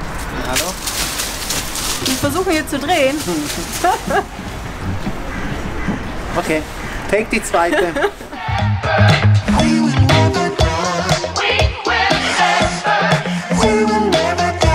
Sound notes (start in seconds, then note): 4.0 laughter